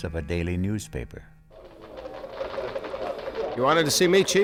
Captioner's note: keys clacking